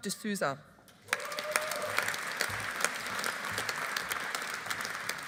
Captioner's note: audience applauding